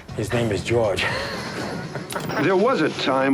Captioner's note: chuckles